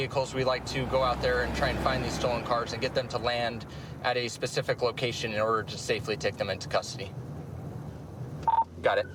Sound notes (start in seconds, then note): 8.4 radio beeps